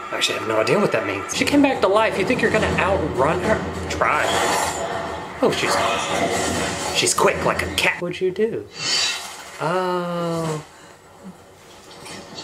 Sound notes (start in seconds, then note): 4.0 creature roars; 5.4 creature shrieks